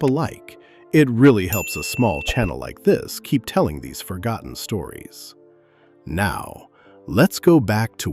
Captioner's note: thoughtful